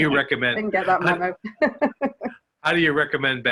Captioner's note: laughs